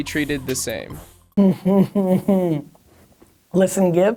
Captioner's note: patronizing laughter